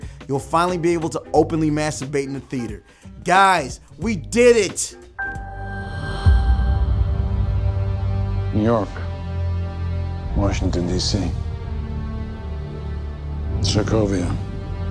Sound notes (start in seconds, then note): 5.5 ominous music; 8.6 voiceover